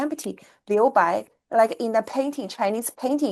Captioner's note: speaks foreign language